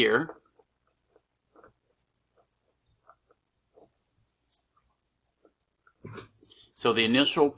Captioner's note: silence